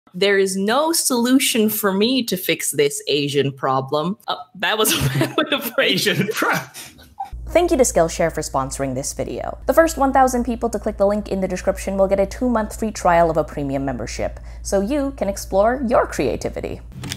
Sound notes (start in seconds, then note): 4.9 laughs